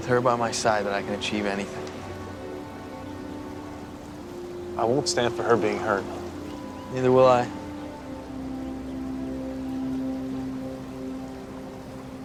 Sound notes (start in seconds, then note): none